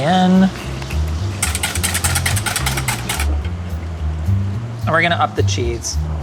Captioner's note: soft up-tempo jazzy music; whisk clinks